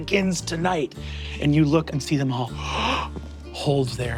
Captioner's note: gasps